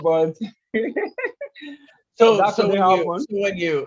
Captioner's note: laugh